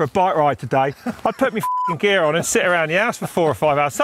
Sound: beep

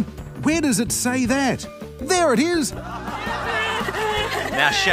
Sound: laughter

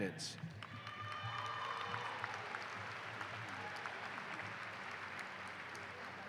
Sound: applause

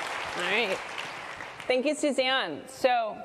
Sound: applause

